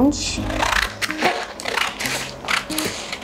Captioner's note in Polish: dźwięk cięcia papieru nożyczkami